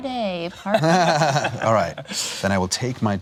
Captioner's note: laughs